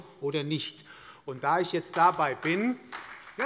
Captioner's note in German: Beifall bei der SPD